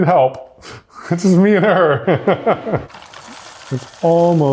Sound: laughs

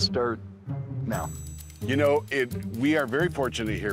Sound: bells dings

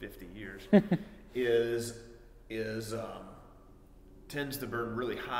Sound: laughing

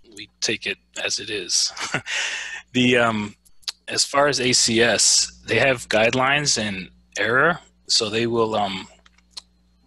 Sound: laughs

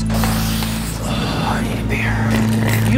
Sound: slurping

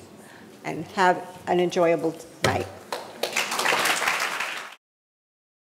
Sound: audience applauding

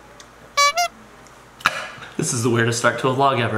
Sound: clown horn sound

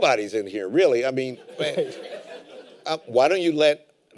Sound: laughter

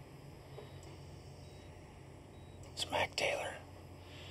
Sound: whispering

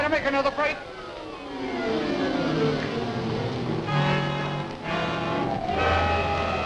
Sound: wind howling; dramatic music

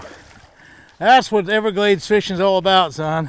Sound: fish splashing

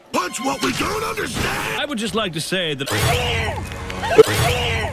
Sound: muffled screaming

